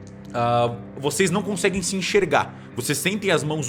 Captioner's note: none